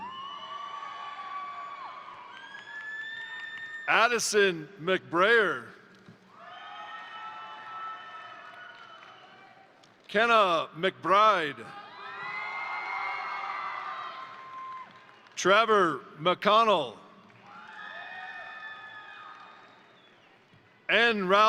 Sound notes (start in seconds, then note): 0.0 crowd cheering; 0.1 crowd applauding; 6.3 crowd cheering; 6.3 crowd applauding; 11.0 crowd cheering; 11.8 crowd applauding; 17.2 crowd applauding; 17.3 crowd cheering